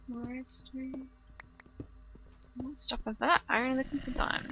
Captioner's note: zombie grumbles